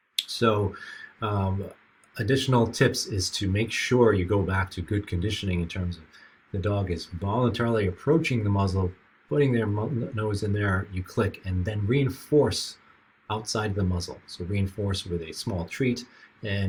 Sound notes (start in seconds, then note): none